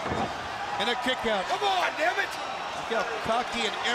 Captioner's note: crowd chatter